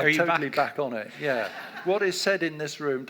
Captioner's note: audience laughs